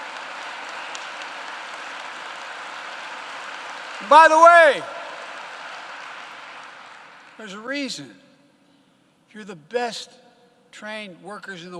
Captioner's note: applause